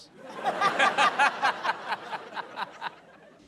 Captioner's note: laughter